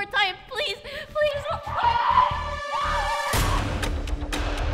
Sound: woman screaming; tense music

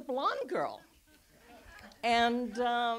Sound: audience laughs

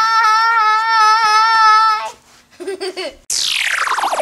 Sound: laughs

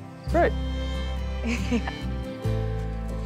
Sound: Lauren laughs

